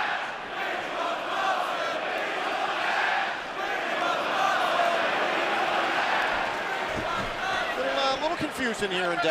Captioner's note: fans chanting